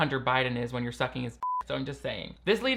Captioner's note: beep